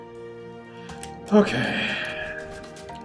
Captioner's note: sighs